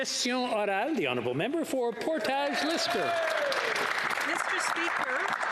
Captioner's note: some Applause